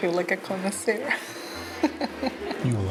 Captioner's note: laughs